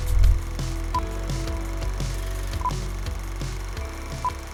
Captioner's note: timer beeps